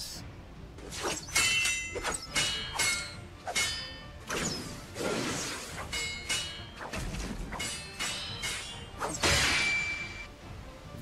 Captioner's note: steel clashes